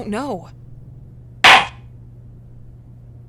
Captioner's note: gavel slams!